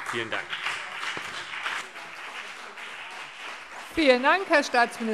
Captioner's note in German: Beifall CDU und BÜNDNIS 90/DIE GRÜNEN